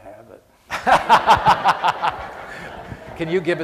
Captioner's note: laughter